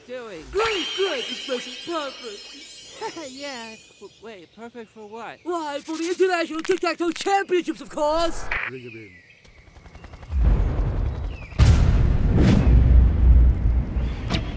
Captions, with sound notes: GREAT! GREAT! This place is PERFECT! Haha yeah! W-wait.. perfect for what? Why for the International TIC TAC TOE CHAMPIONSHIPS OF COURSE! Bring 'em in. *helicopter propellers*